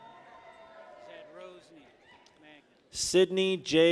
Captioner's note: people cheer